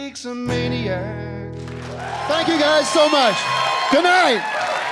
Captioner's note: cheering and applause